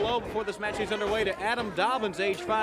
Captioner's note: crowd cheering